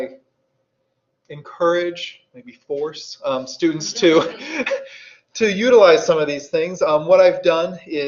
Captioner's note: audience laughs